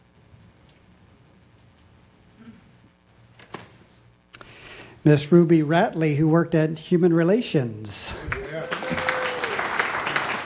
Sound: applause

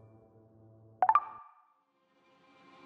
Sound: notification sound

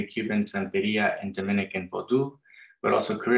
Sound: non-english speech

